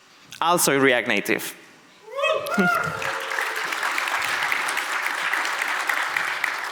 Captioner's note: audience applauds